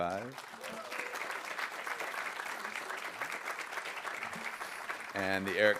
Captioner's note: audience applauding